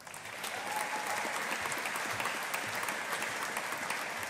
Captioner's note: audience applauding